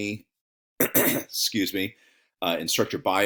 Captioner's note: clears throat